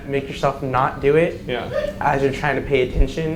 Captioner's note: audience member yelps